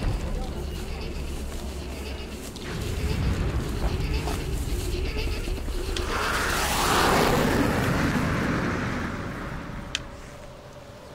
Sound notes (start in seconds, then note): 2.5 distant guns firing; 6.6 jet engine roars